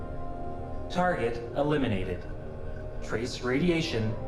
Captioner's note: computer voice